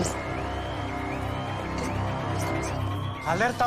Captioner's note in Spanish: Suena alarma